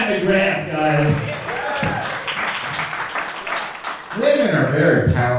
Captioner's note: audience cheering